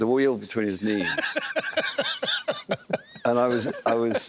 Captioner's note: laughter